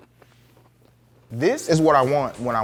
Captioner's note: food crunches